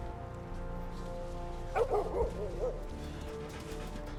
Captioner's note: dog barks